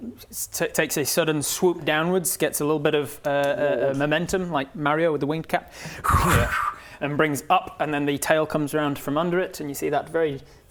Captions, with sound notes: takes a sudden swoop downwards gets a little bit of, uh momentum, like Mario with the winged cap *wind blowing* and brings up and then the tail comes round from under it and you see that very